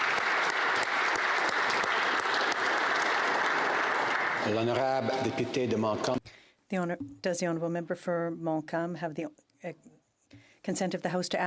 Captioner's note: applause